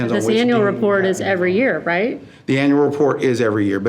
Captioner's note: speaks faintly